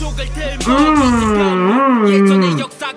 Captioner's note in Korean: 으으음으으음!!